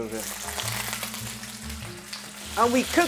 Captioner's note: sizzling sound